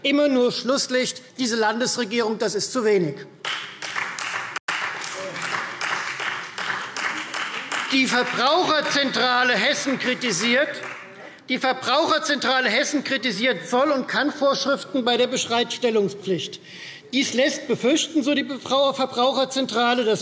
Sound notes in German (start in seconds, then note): 3.4 Beifall Freie Demokraten